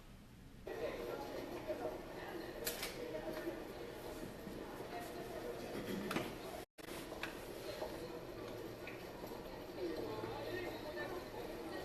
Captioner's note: crowd noise